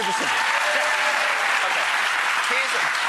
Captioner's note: audience applauding